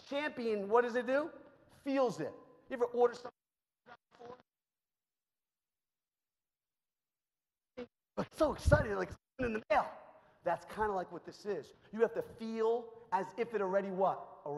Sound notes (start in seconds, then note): 4.8 microphone cuts out